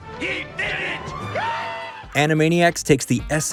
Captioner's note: cheering